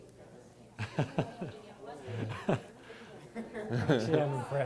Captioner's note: laughs